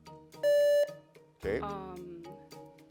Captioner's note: buzzer beeps